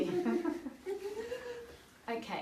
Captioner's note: group laughs